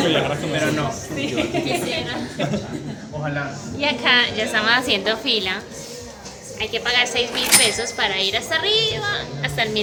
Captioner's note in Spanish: risas